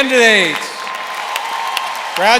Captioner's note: applause